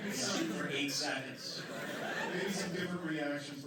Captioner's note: laughter